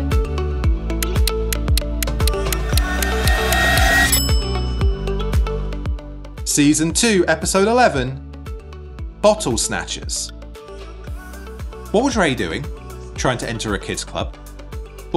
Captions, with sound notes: (timer ticking) (bell dings) Season two, episode 11. "Bottle Snatchers." What was Ray doing, trying to enter a kids club?